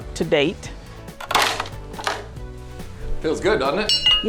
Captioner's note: wood cracking